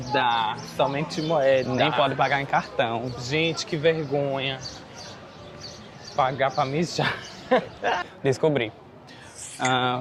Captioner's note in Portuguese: risadas